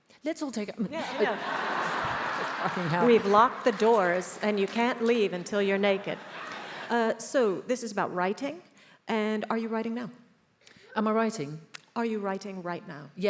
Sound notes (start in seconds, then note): 1.0 attendees laughs